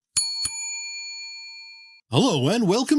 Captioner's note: bell dings